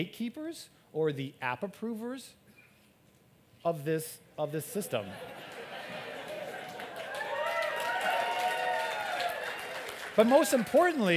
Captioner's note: applaud